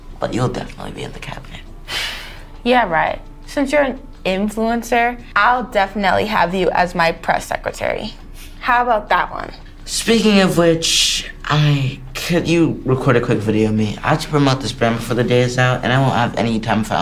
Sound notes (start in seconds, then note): 0.2 scoffing